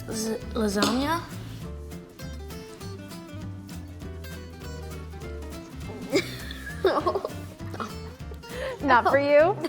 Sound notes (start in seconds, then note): 0.0 light music; 6.0 chuckles